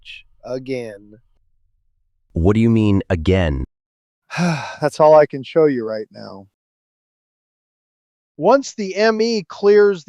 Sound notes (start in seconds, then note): 4.3 sigh